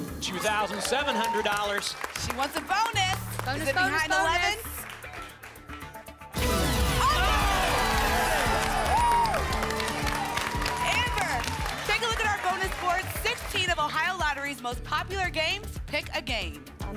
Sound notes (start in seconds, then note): 9.0 applause and cheering